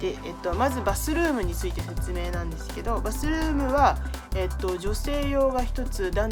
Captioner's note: speaking in foreign language